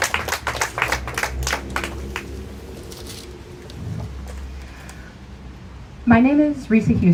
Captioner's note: applause